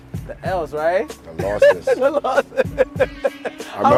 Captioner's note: laughing